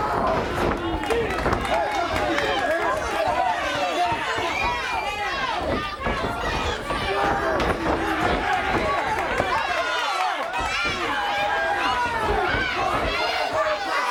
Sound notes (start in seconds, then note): 0.0 crowd cheering; 0.1 crowd chatter